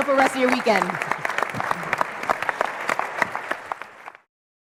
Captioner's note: applause